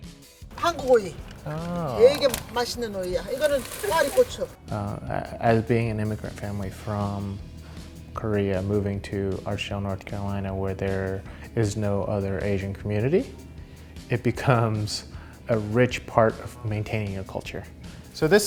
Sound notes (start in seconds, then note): 0.9 speaking in Korean